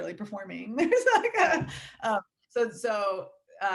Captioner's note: laughing